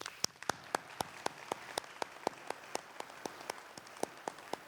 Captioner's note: applause